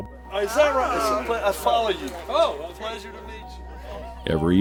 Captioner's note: hikers chatter indistinctly